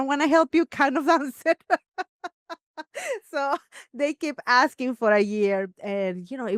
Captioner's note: laughs